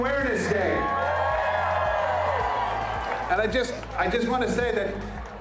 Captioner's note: crowd